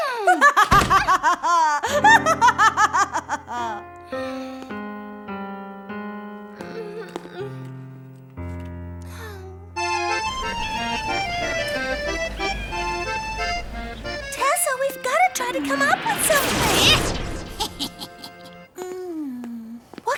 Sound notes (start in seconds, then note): 0.0 queen laughing; 0.2 Nellie huffing; 3.0 melancholy piano music; 7.1 Nellie groaning; 9.9 seabirds calling; 10.1 jaunty music; 16.7 magic crackling; 17.4 witch laughing